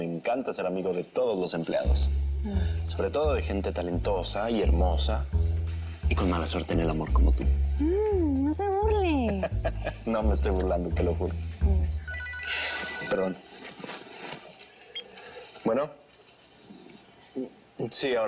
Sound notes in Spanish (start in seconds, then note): 9.0 Ríe; 12.0 Suena un celular